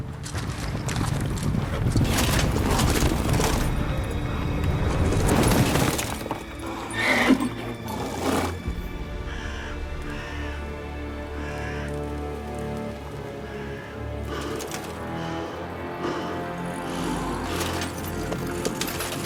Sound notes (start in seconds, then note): 0.2 hoofbeats approaching; 6.9 horse neighs; 13.4 heavy breaths